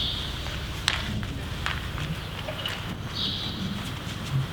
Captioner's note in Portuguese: som de corrida